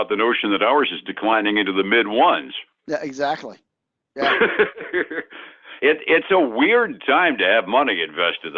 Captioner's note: laughs